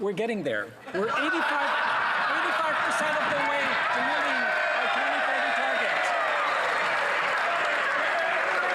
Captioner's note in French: voix de l'interprète